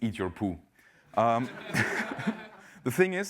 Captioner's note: laugh